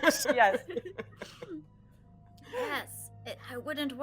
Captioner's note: all laughing